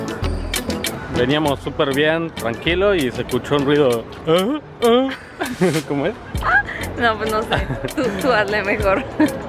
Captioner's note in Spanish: Jajaja